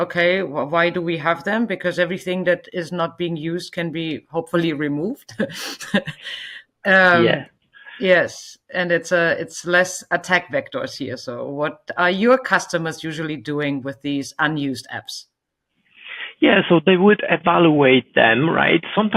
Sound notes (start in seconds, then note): 7.1 host chuckling